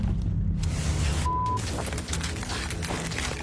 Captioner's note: beep